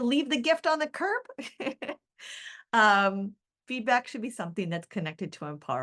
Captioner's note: chuckles